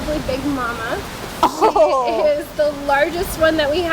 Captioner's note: chuckles